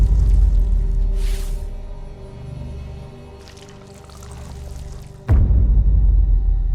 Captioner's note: dramatic orchestral music; squishing